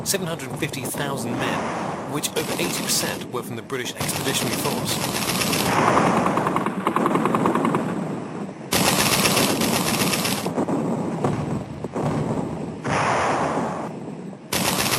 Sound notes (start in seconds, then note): 5.6 artillery blasting; 5.6 guns firing